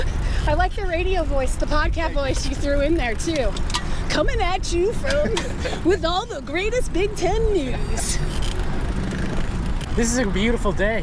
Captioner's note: laughter